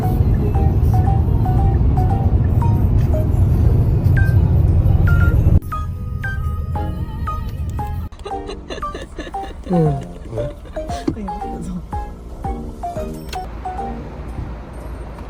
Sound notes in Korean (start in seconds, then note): 9.5 하품